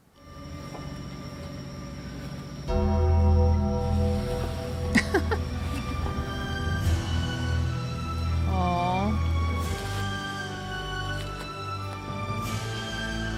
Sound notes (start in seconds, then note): 0.1 dramatic music; 2.7 bell rings; 4.9 Michelle laughs; 6.3 dramatic music; 9.7 dramatic music